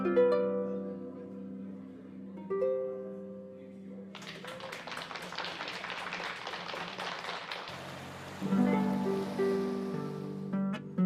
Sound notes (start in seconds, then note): 0.0 harp Music; 4.1 applause; 7.8 harp Music